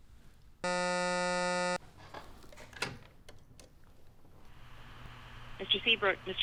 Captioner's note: intercom buzzing